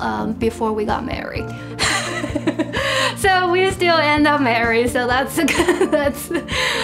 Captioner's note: laughs